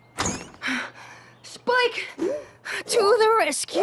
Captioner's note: panting